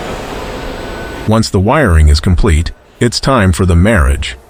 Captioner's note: machines whirring